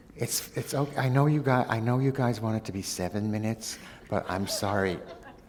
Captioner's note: laughter